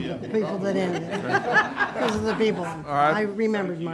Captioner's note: laughing